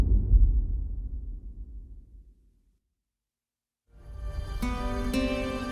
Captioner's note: dramatic sound